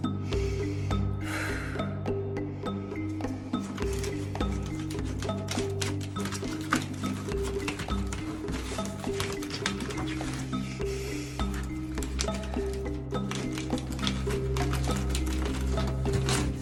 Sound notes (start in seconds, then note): 1.2 sighs; 4.2 papers rustle; 10.9 sighs